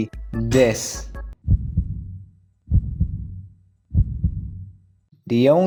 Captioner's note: heartbeat